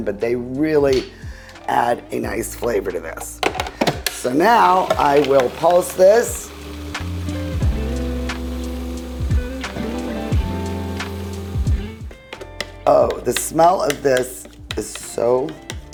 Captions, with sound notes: but they really add a nice flavor to this. So now I will pulse this. (light music) (food processor whirring) Oh, the smell of this is so